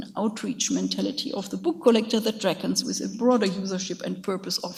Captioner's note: speaks in a foreign language